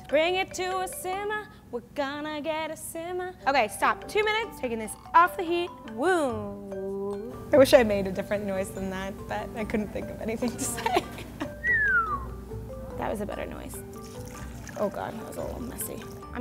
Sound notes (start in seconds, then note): 10.7 laughs; 11.6 whistles